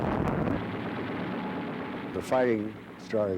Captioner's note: rapid gunfire